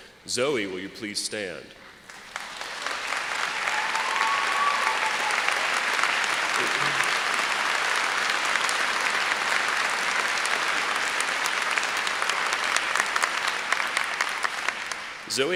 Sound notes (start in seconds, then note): 2.0 applause